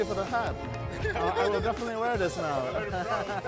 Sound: group laughs

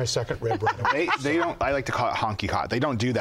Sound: laughs

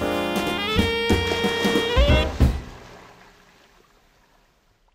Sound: splash

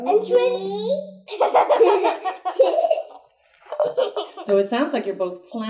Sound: laugh

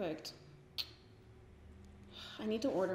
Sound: clicks teeth

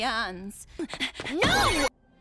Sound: Adora panting

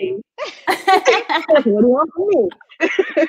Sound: laughing

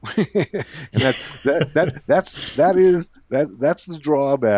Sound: both laughs

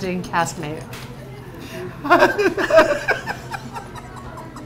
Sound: laughing

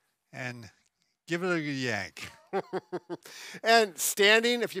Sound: chuckles

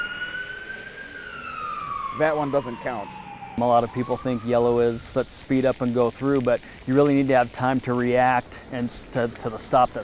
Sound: ambulance siren

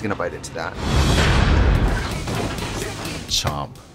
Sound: intense dramatic noises

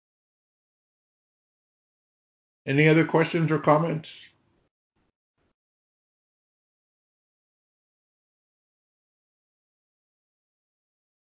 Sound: silence; silence

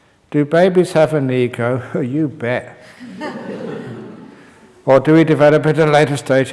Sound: laughter

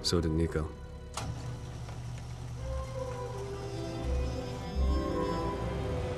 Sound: A sound of a gate opening

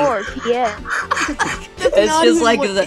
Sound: the sound of a dying horse

